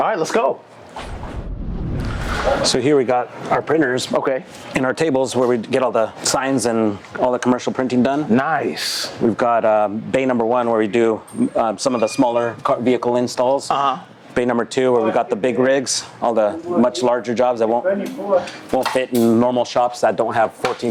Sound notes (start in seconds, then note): 0.9 wooshing